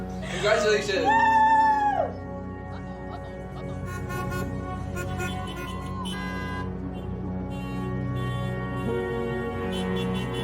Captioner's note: car horns honking